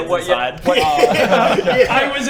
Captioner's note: disturbing giggles